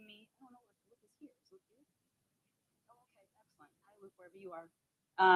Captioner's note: audio fades out